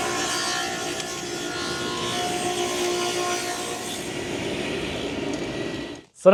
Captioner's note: sander buzzing continues